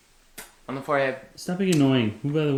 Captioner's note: kissing